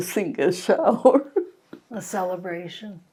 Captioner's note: laughing